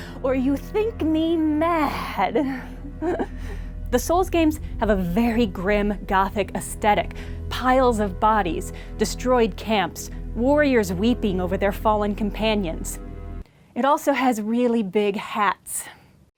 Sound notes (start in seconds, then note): 2.6 stifled, unsettling laughter